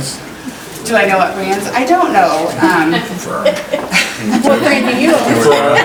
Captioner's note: chuckling